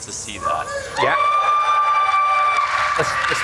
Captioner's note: applause, cheers